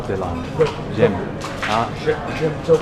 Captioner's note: french